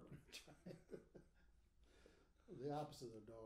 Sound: laughing

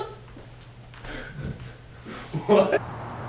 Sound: laughing

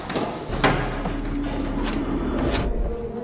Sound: door opens

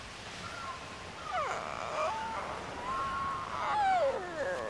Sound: parrot groaning

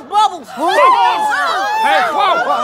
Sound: shouting excitedly

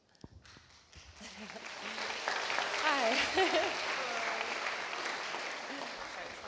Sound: applause

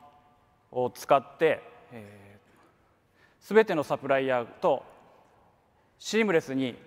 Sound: speaks in foreign language

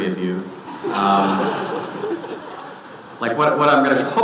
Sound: audience laughing

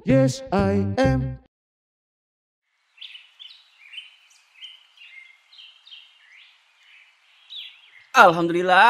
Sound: birds chirping

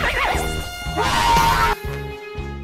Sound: screm in haaaaap

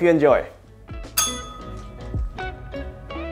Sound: bell rings

